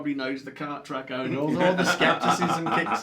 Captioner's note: chuckles